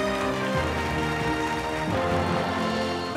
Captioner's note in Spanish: aplausos